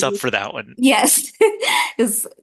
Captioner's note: chuckle